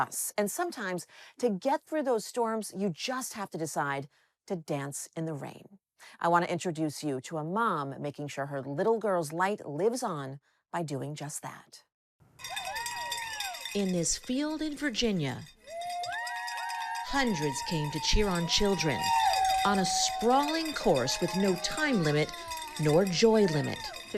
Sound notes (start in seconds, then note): 12.4 crowd cheering; 15.6 crowd cheering